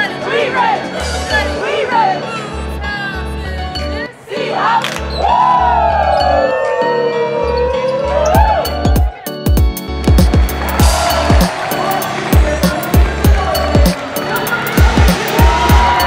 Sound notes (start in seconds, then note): 10.0 crowd cheering